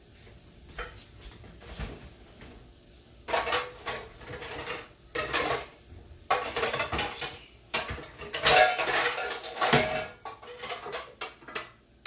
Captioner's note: sound of dishes